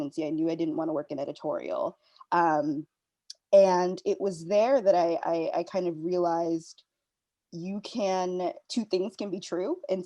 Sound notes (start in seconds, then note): none